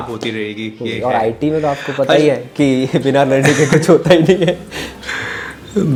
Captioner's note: laughs